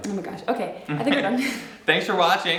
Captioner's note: chuckles